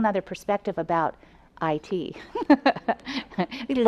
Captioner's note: laughs